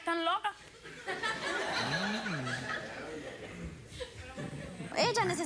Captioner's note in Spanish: Risas del público